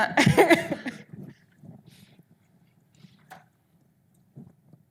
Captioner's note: audience laughing